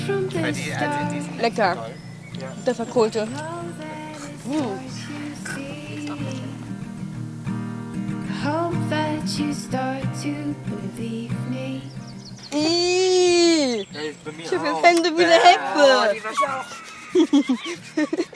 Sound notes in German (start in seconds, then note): 6.8 Entspannte Musik; 14.2 lacht